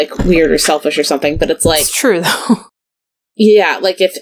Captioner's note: laughs